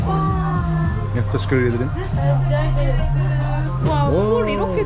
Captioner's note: in Turkish